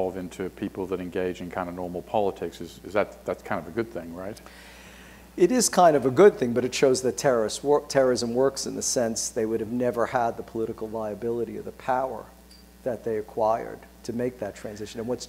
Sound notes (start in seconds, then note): none